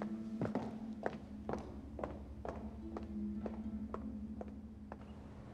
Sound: footsteps

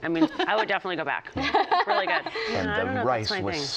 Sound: laughs

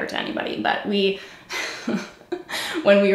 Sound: giggles

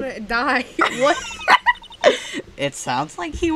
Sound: big laugh

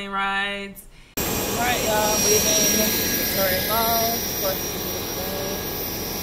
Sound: muffled talking with airplane engine

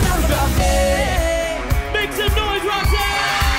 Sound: applause and cheering

